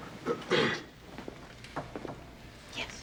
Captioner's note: Rick clears throat